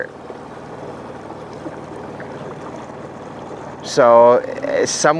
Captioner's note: motor rumbling; water sloshing